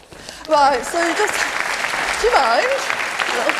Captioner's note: applause